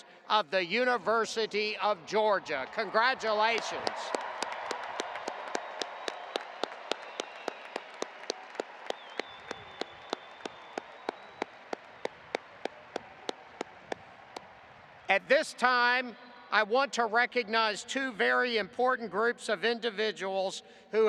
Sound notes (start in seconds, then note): 3.5 audience applauding